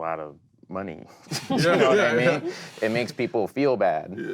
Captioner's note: group laughing